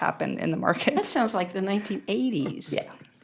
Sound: laughter

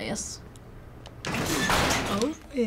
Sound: door creaking

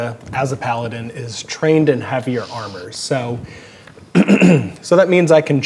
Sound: clears throat

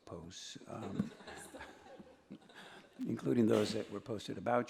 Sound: laughter

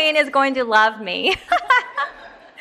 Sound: laughs

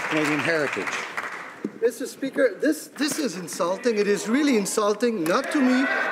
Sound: some Applause

